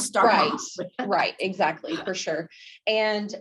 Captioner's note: laughs